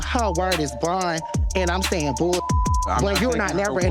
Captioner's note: beep